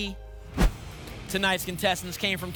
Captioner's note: whoosh